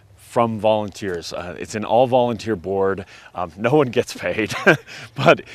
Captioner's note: chuckles